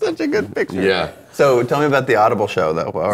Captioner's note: laughing